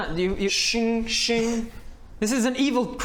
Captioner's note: schinngg schinngg